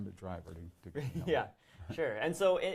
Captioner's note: laughs